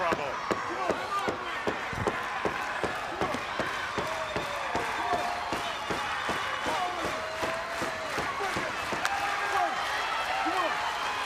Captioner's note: crowd cheering